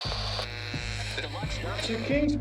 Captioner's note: buzzer